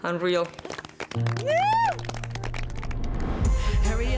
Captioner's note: clapping